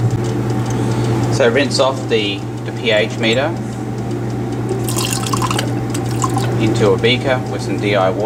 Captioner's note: water splashing